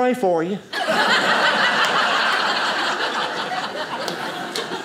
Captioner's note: audience laughing